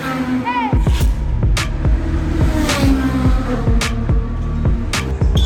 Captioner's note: car engine roaring; loud upbeat music playing